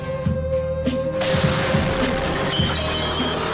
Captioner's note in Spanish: explosión